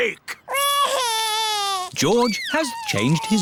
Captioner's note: crying